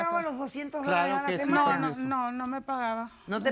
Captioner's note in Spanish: Hablan al unísono